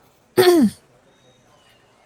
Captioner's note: clears throat